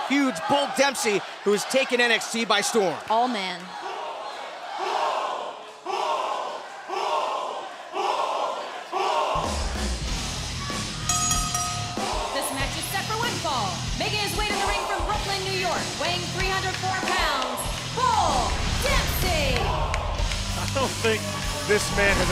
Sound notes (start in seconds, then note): 7.7 fans chanting; 11.0 bell ringing